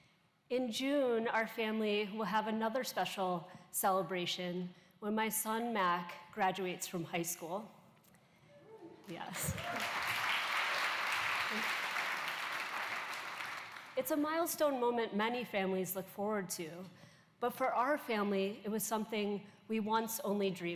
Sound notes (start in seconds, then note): 9.1 applause